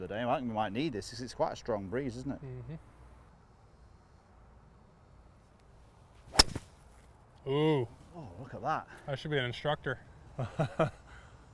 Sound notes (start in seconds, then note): 6.2 golf club swinging; 10.2 laughing